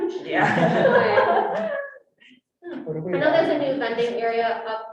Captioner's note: all laughing